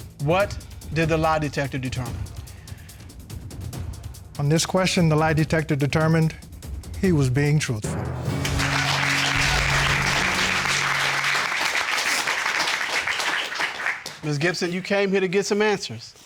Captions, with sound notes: What did the lie detector determine? On this question, the lie detector determined he was being truthful. [applause] Ms. Gipson, you came here to get some answers.